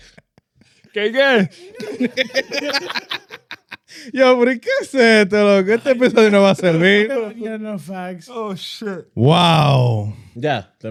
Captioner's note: laughing